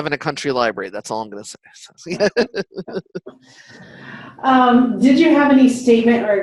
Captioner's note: chuckles